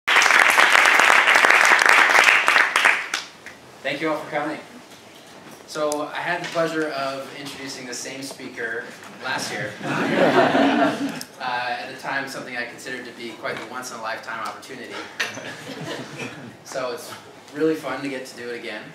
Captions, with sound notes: [APPLAUSE] Thank you all for coming. So, I had the pleasure of introducing this same speaker, last year. >> [LAUGH] >> At the time something I considered to be quite the once in a lifetime opportunity. So, it's really fun to get to do it again.